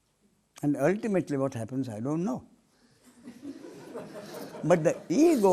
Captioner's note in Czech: smích